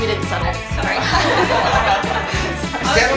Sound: laughter

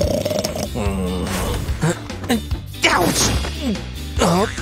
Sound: snoring; groans

